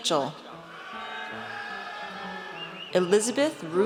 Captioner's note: audience cheers